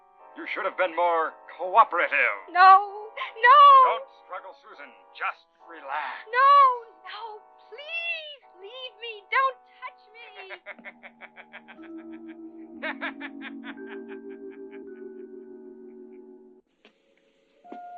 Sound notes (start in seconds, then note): 10.3 evil laughter; 10.3 eerie music